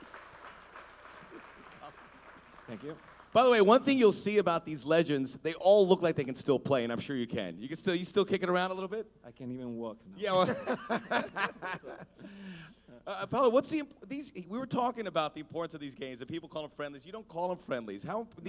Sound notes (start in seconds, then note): 11.9 laughter